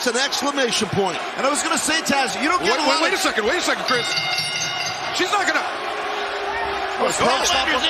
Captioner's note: bell